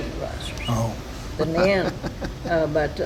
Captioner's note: laughs